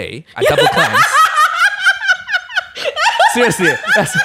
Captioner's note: bursts into laughter